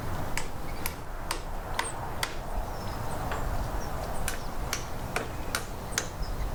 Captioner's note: hammering